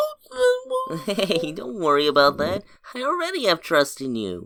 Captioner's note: chuckles